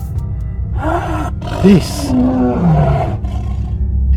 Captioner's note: growling